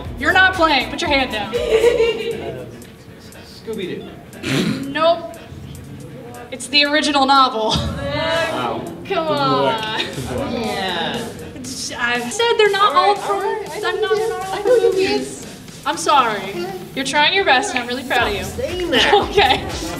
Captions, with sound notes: you're not playing put your hand down "Scooby Doo!" Nope. It's the original novel. [General noises of frustration] I said they're not all films! I'm sorry you're trying your best and I'm really proud of you. "Stop saying that!!" okay!